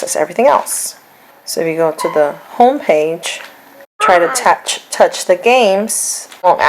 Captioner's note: child talks